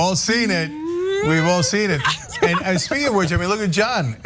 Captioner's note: laugh